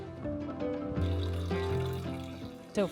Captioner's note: fountain trickles